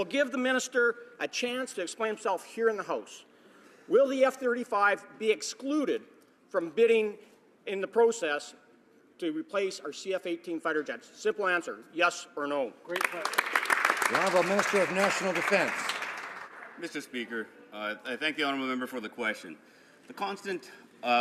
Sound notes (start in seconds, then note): 17.3 some Applause